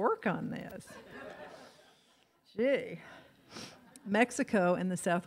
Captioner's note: audience laughs